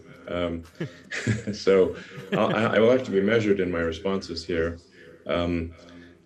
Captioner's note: chuckles